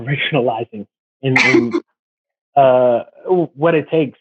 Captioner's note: laughs